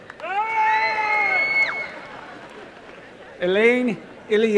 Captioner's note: applause and cheering